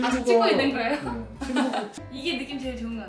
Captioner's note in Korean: 웃음